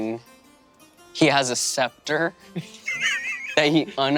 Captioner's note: Lou giggling